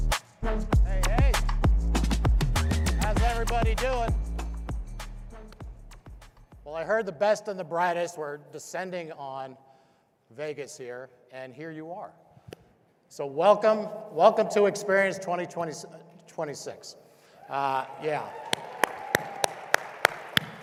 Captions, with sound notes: Hey, hey. How's everybody doing? Well, I heard the best and the brightest were descending on Vegas here, and here you are. So welcome, welcome to Experience 2026. (crowd cheering) Yeah. (crowd cheering and applauding)